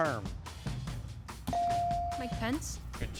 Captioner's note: bell chiming